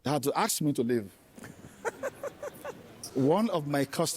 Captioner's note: laughter